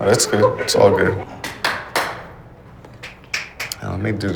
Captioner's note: clapping